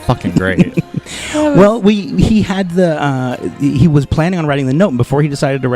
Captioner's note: laughing